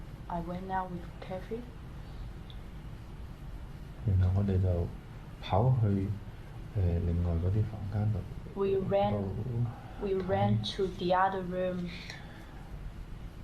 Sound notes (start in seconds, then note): 3.9 speaking in Cantonese